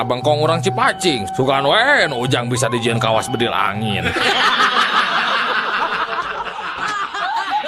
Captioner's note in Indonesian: tertawa